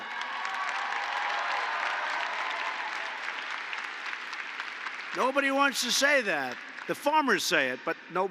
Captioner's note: applause